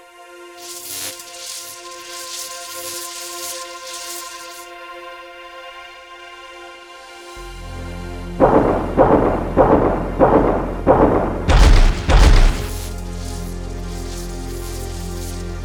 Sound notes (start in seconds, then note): 0.6 electricity crackling; 8.4 steps thudding; 11.5 sword crackling